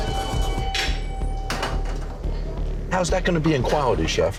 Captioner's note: microwave whirring